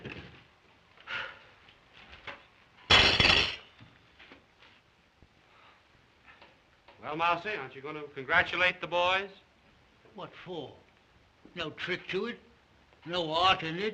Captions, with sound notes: [sighs] [loud clatter] Well, Mousey, aren't you going to congratulate the boys? What for? No trick to it. No art in it.